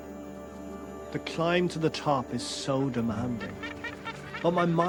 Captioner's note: voice-over